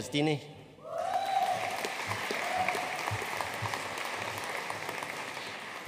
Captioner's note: audience cheering and applauding